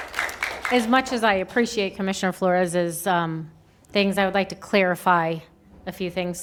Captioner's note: applause